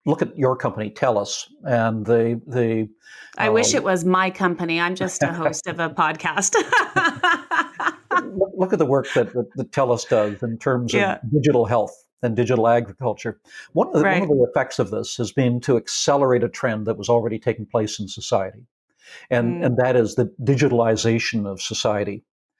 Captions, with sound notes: Look at your company, TELUS, and the... - I wish it was my company. I'm just the host of a podcast. (laughs) - Look at the work that TELUS does in terms of digital health and digital agriculture. - Right. - One of the ripple effects of this has been to accelerate a trend that was already taking place in society. And that is the digitalization of society.